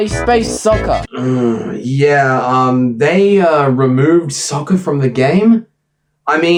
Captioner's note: music stops, concerned groan